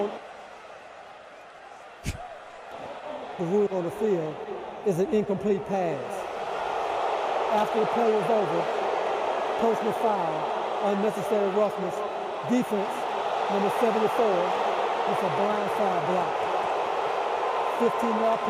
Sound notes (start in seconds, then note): 2.7 chuckles; 6.7 crowd booing